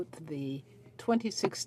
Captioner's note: speaking French